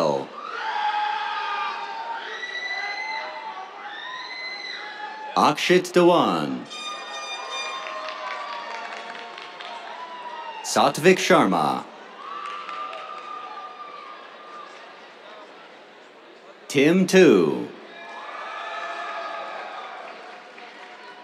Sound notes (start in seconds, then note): 0.0 cheers; 6.7 air horn blares; 7.2 applause; 11.7 cheers, applause; 17.9 cheers, applause